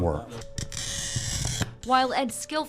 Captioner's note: glass screeching